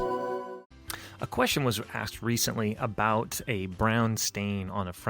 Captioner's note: voiceover